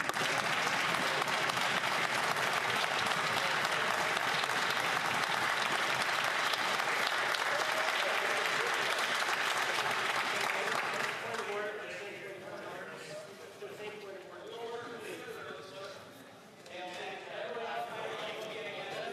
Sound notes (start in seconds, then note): 6.3 some Applause